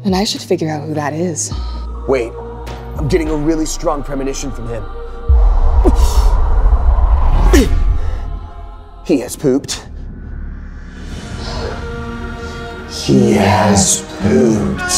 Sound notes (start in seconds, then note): 5.4 Tut gasping; 10.5 dramatic music